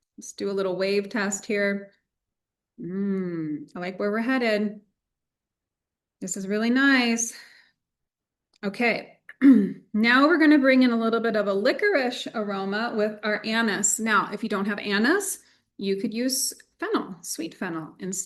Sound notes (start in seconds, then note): 9.4 clears throat